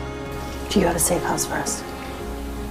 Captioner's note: voiceover